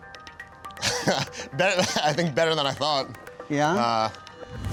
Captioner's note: laughs